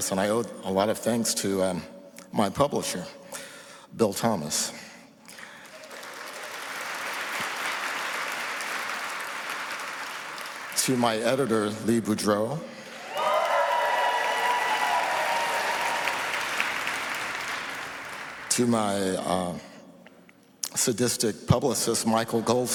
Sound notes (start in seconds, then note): 7.7 applause